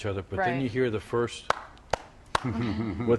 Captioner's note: clapping